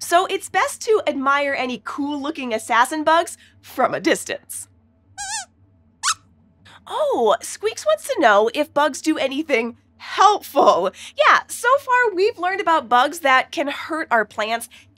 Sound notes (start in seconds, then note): 5.2 squeaks squeaks